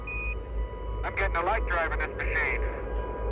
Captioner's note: man 1 on radio